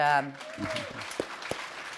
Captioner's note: applause